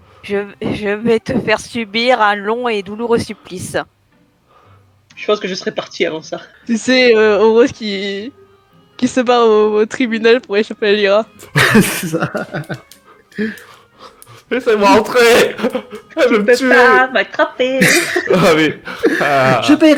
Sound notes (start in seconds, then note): 11.5 laughing; 17.3 mocking; 17.7 laugh